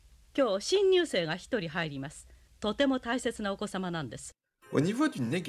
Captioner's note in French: Ils parlent en japonais